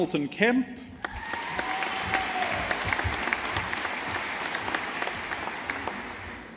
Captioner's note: audience applauding